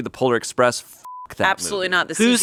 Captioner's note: beep